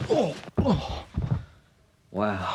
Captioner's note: Gene groans